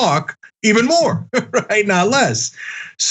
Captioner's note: laugh